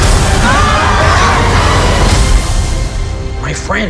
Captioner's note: chilling orchestral music; shrieking